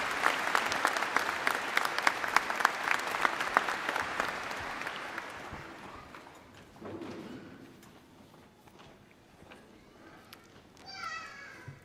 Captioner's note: applause